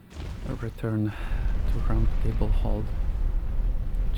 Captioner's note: exhales